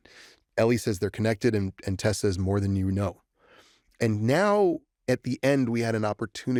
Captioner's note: none